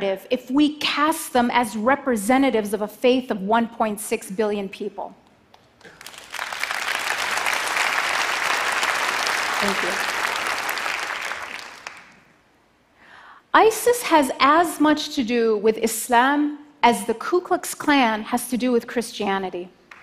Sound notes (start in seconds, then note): 5.7 applause